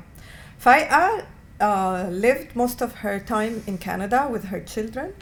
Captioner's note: non-english